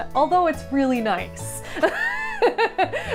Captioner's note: laughing